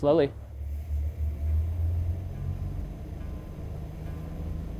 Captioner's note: engines revving